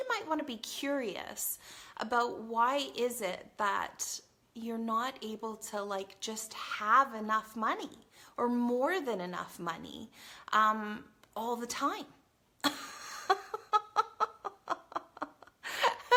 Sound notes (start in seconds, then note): 12.7 laughs